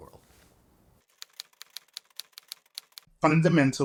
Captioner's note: letters lightly clicking